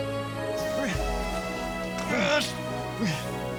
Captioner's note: Chris groaning